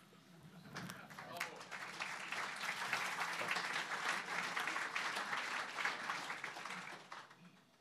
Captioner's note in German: Applaus